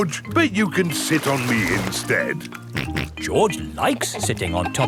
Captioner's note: snorts